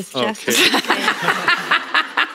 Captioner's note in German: Lachen